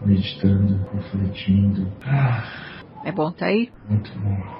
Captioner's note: sigh